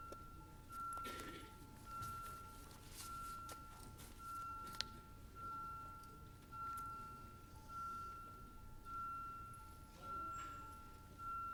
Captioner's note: off microphone